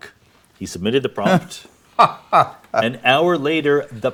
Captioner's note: Brian laughing